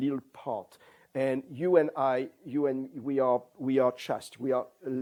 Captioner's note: non-english; non-english